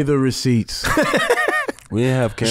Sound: laughs

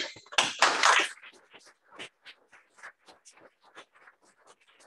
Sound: applause

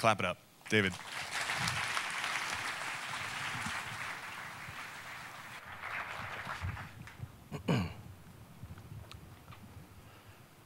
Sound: audience clapping

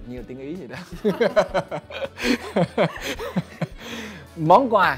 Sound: laugh

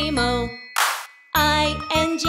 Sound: hands clap

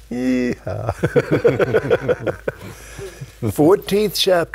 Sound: all laughing

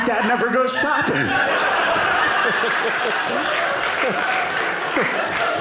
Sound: audience laughing

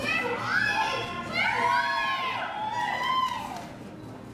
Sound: cheering

